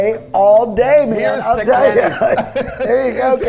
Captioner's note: both laugh